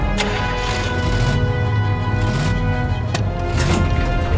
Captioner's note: engine revving